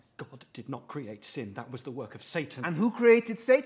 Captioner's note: none